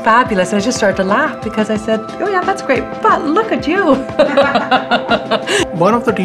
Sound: laughs

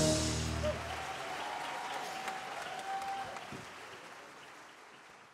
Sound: cheers & applause

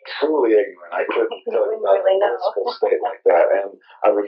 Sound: laughs

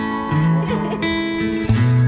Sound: girl laughs

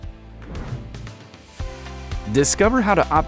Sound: air whooshes

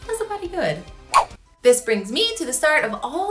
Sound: swooshing

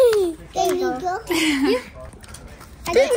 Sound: mom giggling

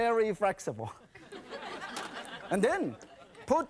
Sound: laughing

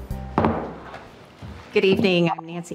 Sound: gavel banging

